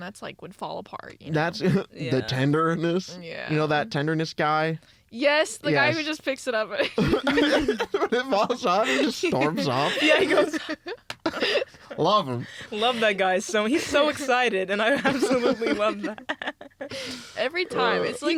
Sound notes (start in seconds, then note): 8.0 laugh; 12.4 laughs